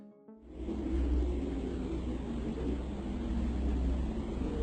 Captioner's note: whooshing sounds